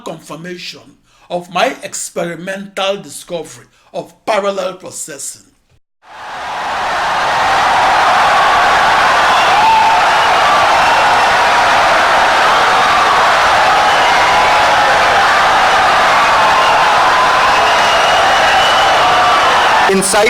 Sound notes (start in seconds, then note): 6.0 wild applause and cheering for 17 seconds